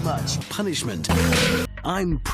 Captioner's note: stock unedited whip sound effect